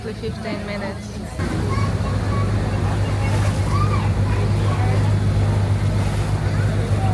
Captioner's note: waves